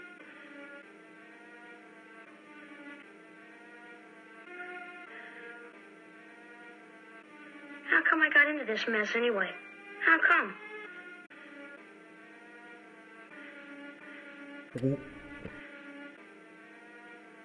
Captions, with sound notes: How come I got into this mess anyway? How come? [glug]